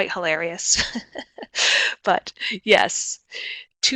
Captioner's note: laughs